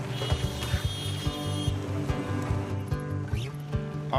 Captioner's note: car horn honks